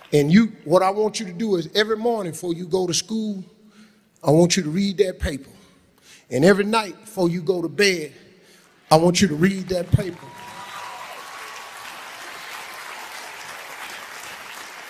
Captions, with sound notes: And you, what I want you to do is every morning before you go to school, I want you to read that paper. And every night before you go to bed, I want you to read that paper." (audience clapping)